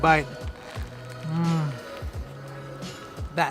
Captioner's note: crunch